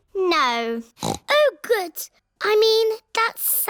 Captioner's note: snorts